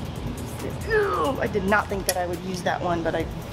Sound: groans

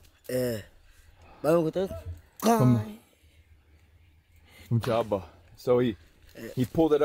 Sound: speaking foreign language

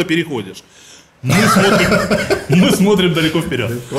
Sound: laughing

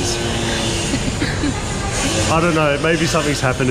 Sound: laughing

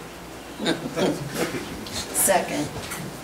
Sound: group laughs

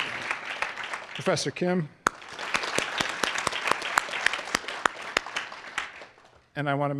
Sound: applause; applause

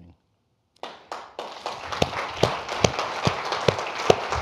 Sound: audience applauding

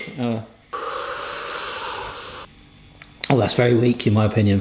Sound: slurping

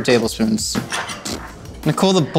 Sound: raspberry blowing

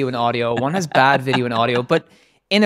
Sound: laughing

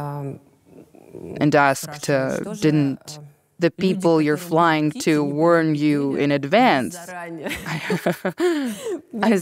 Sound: laughs

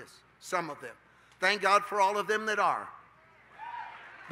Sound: congregation cheers

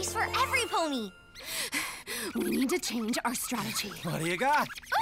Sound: panting

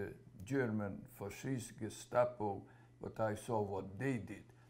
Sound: german

